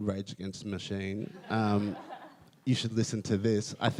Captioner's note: audience laughs